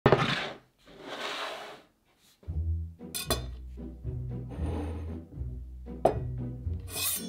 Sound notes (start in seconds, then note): 0.0 board sliding; 2.4 quirky music playing in background throughout the video